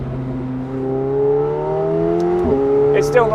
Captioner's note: engine revving